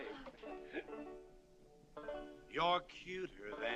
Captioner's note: junior chuckling